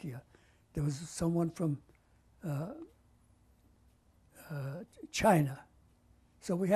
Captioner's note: pauses for 3 seconds